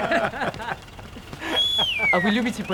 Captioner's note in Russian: смех; свист